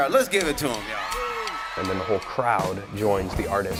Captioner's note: audience cheering